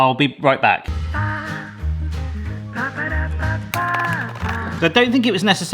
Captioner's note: knife rattles